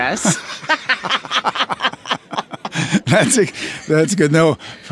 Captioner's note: both laughing